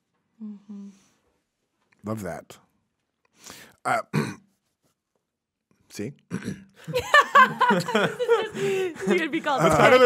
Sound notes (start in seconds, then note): 4.0 clears throat; 6.8 hosts laughing